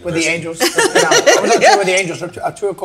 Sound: group laughs

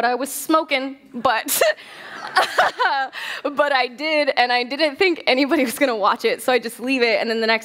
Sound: laughter

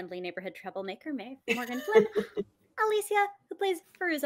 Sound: laughs

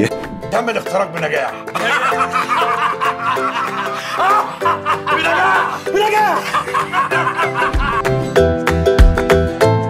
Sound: laughs!

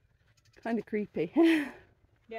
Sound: laughing

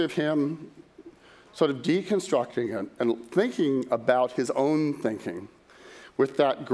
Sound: none

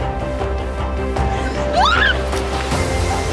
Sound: scream

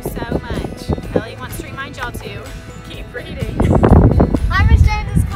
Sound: chuckles

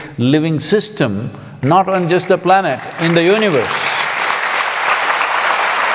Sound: applause

